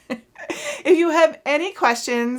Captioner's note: chuckles